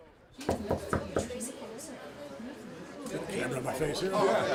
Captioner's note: door knocking